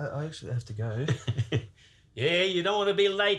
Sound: chuckles

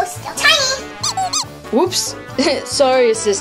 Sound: assistant squeaking

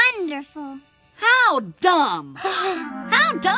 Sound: all gasp

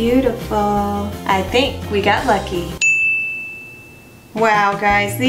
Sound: ding

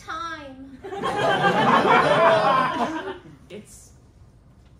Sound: laughter

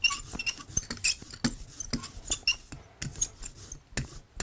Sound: engraving tool squeaks

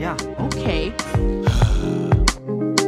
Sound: Raphael sighing

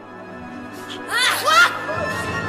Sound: Divina screams; Claire yelps

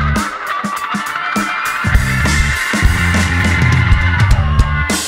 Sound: audience cheers

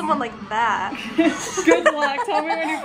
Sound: laughter

